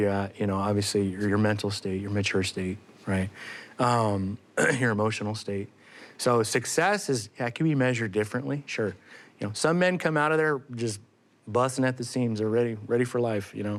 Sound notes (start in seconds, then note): 4.6 ahem